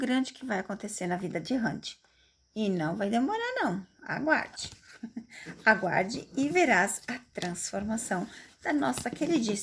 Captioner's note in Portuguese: risadas